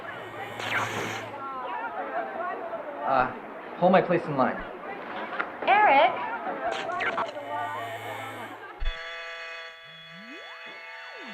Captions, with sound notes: (laser blasts) - Hold my place in line. - Eric! (machinery humming)